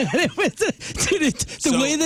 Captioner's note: laughing